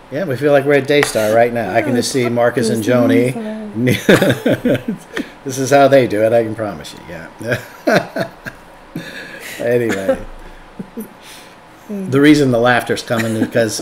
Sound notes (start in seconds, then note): 3.8 laughs; 8.9 laughs